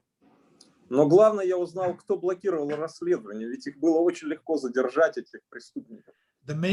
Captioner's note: speaking Russian language